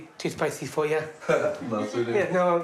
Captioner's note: laughs